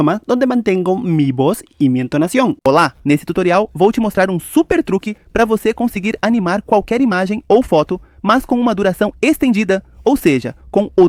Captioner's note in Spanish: audio doblado en portugués